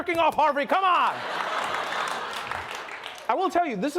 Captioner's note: laughter and applause